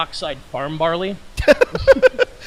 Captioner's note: laughs